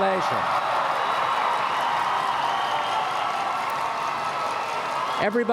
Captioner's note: applause and Cheering